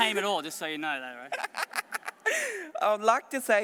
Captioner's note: laughs